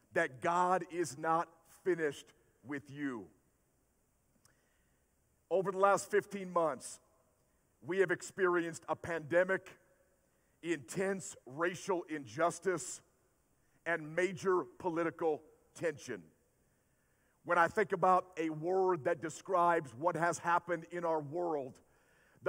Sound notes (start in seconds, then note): none